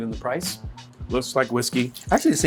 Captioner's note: whiskey pouring